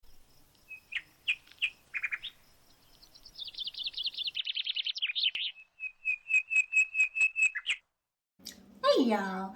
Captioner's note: birds Chirping